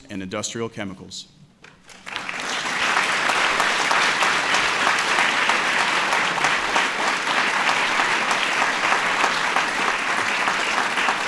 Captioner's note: applause